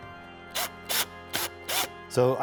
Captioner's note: electrical drill whirring